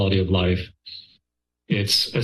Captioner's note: pause